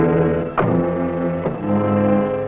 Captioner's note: car door shuts; dramatic music